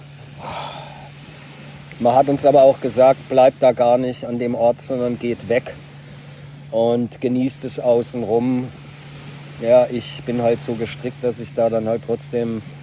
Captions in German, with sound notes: [seufzt] Man hat uns aber auch gesagt, bleibt da gar nicht an dem Ort, sondern geht weg und genießt es außenrum. Ja, ich bin halt so gestrickt, dass ich da dann halt trotzdem